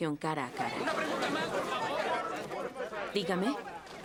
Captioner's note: chatter